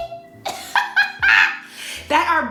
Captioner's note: laughs